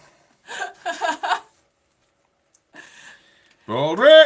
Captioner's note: laughing